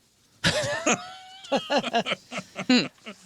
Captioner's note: laughing